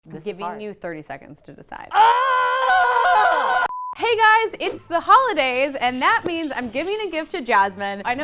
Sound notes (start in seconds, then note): 1.9 female shouts